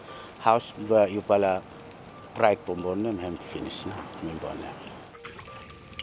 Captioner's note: speaks in foreign language